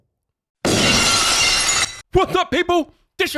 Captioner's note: glass shatters